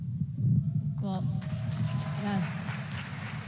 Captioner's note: applause